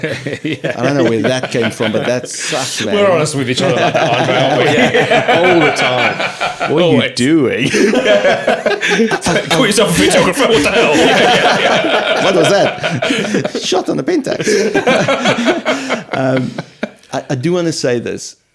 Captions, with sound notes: (laughing) I don't know where that came from, but that's sucked, man We're honest with each other. Andre, aren't we? All the time. What are you doing? (laughing) Call yourself a videographer? what the hell? (laughing) What was that? Shot on a Pentax?. (laughing) I do wanna say this.